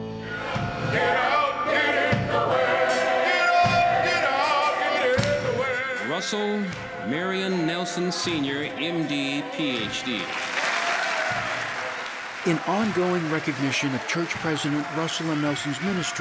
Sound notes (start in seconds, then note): 9.3 audience applauds